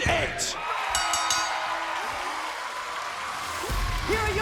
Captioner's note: bell rings